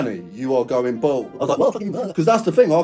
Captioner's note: muttering gibberish